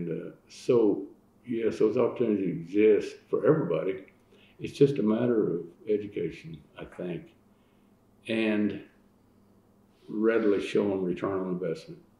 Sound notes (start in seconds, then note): none